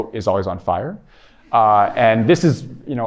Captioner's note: laughter